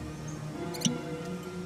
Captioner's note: removing cork